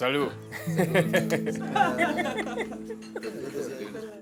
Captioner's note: laughs; laughter